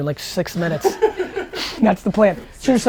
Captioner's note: laughing